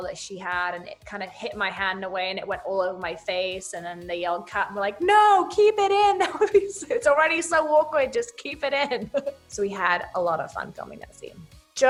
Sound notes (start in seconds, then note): 8.8 laughs